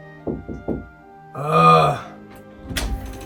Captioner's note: knock at the door; loud groan